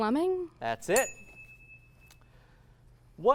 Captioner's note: ding